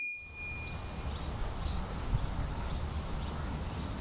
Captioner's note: birds chirping